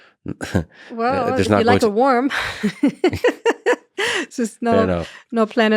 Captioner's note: laughs